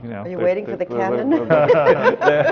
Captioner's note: laughs